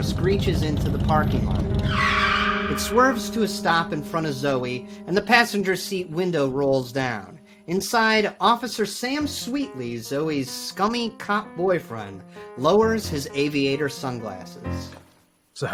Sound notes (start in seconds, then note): 1.7 tires screeches